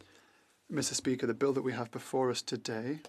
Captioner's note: speaking French